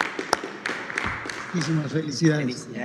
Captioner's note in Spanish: aplausos